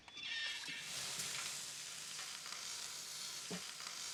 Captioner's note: sizzling